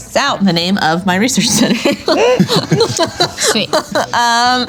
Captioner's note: laughing